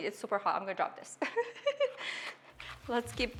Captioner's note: laughing